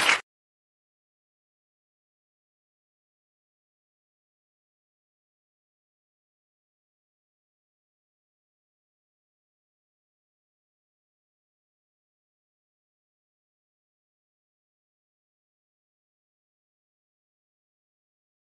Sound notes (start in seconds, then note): 0.0 applause